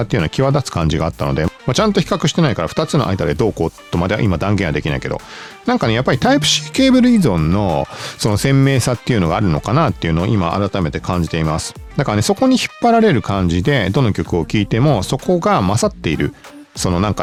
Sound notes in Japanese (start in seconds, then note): 6.1 鼻息